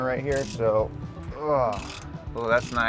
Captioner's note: ratchet teeth clicking